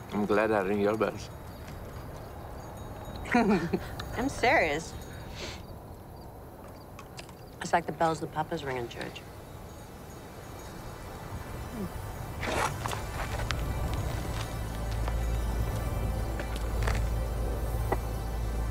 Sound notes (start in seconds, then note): 3.2 chuckles